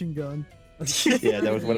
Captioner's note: laughs